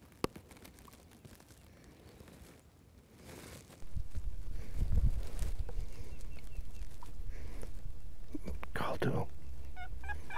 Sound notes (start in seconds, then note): 3.9 birds chirping; 9.4 turkey calling